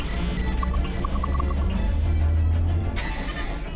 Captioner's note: modem screeching